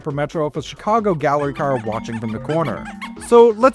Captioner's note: squeaky noises implying fun time